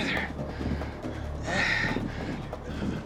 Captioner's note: says in a weak voice; panting; tense music